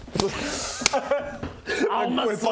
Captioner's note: sobs